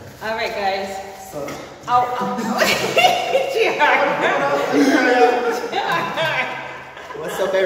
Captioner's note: laughing